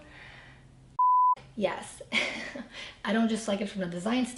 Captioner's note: beep